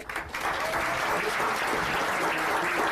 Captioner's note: applause